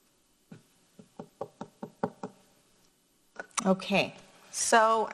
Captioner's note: loud knocking